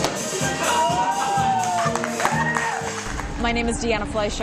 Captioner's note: applause